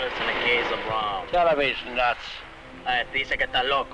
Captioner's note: Colonel Cabeza speaking in Spanish; man speaking in Spanish